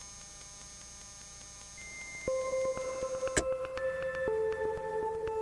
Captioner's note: static; suspenseful music